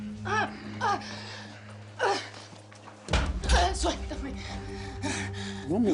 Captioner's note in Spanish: Quejidos